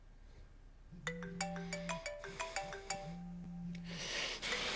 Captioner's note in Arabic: رنين الهاتف